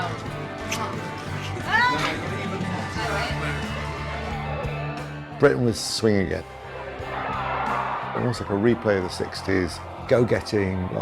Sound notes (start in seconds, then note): 6.7 cheering